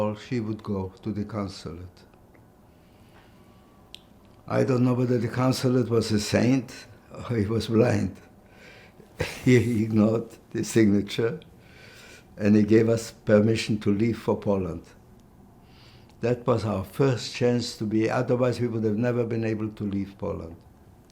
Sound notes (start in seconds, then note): 9.2 laughing